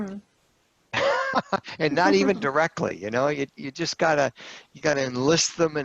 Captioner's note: laughter